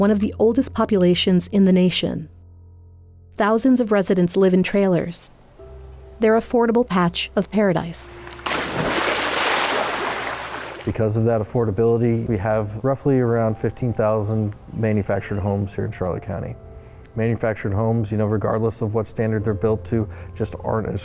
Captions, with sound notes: of the oldest populations in the nation. Thousands of residents live in trailers. Their affordable patch of paradise. [splashing] Because of that affordability, we have, roughly around 15,000 manufactured homes here in Charlotte County. Manufactured homes, you know, regardless of what standard regardless of what standard they're built to, just aren't as